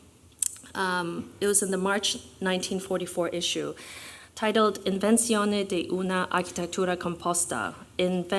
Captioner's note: non-english speech